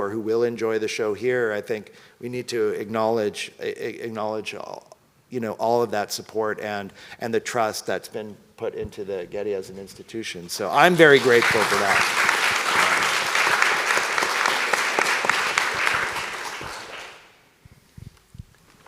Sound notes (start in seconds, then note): 10.8 audience applauds